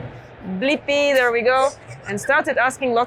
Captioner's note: snickers